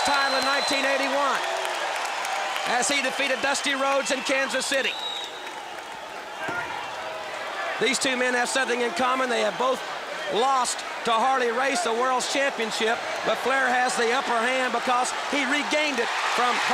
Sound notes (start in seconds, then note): 0.1 crowd cheering; 5.8 crowd chatter